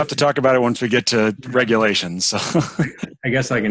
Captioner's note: laughs